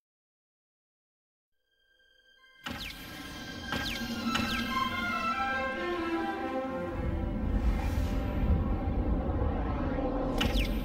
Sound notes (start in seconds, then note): 2.4 digitized sounds; 7.4 digital whooshing sounds; 10.6 dramatic sounds finishing as music ends